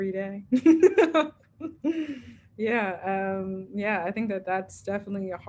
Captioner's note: laughs